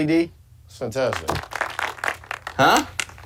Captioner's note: applause